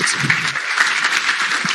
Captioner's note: applause